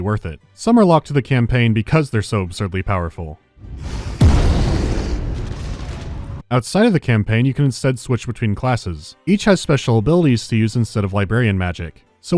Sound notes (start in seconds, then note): 3.6 pow